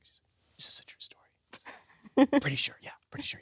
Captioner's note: Sydney laughs